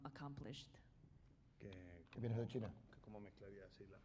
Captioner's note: speaking spanish